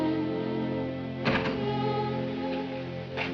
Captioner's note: door closes